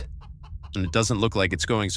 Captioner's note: space chicken continues clucking …